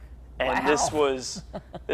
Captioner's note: laughs